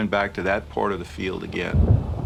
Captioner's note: thunder rumbles